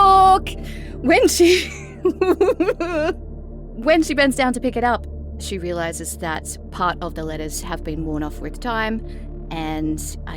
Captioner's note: chuckles